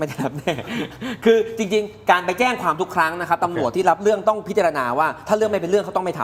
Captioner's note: laughs